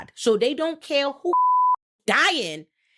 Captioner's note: beep